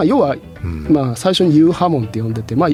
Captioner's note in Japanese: 咳払い